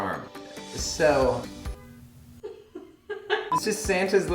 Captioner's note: laughing